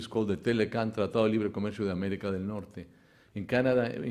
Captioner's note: speaks Spanish